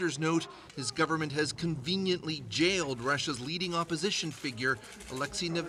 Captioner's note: shouting